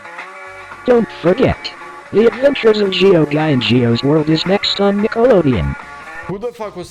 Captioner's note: disembodied voice